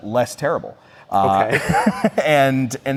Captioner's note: laughs